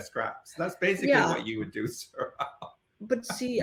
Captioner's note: laughing